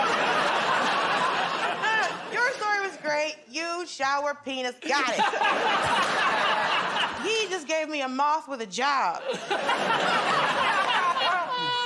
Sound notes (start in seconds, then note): 0.0 laughter; 4.8 laughter; 9.2 laughter